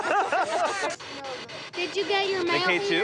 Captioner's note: laughing